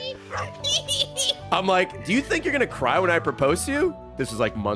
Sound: cackling

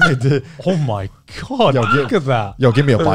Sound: cackling

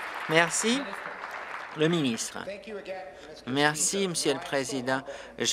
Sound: applause

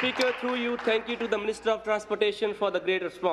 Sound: applause

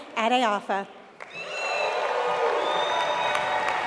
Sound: applause

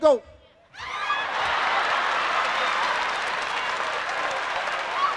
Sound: audience laughing

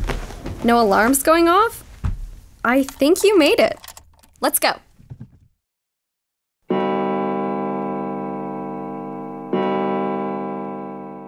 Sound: two clock chimes

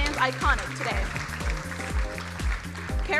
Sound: crowd applauding

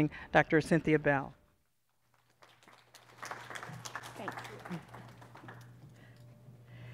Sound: applause

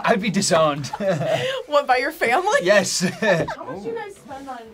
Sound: laughs

